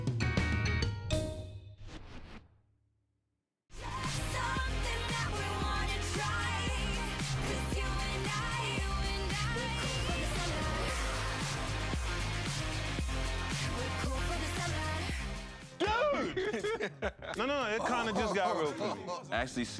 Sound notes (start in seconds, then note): 16.0 laughs